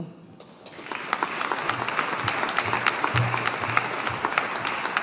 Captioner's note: audience applauding